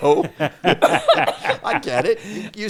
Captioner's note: all laughing